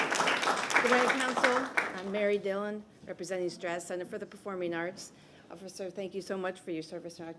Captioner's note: applause